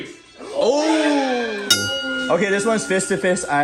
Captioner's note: bell dinging